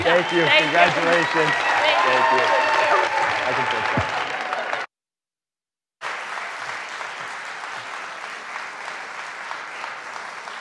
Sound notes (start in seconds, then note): 3.1 audience cheering; 3.1 audience clapping